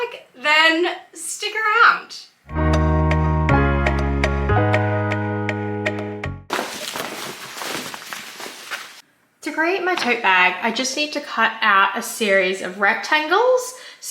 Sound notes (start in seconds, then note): 2.5 upbeat elevator music plays; 6.5 fabric crinkle sounds